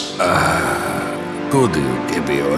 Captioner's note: Gorday groans